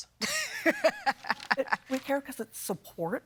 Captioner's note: judge laughs